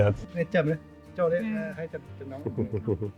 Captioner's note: speaking in foreign language